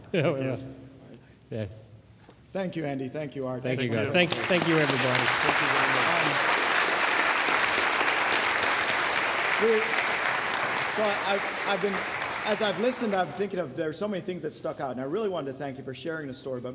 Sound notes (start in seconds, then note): 6.2 applause